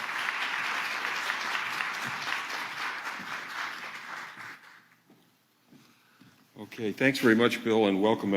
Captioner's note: applause